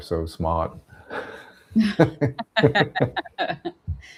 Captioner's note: laughs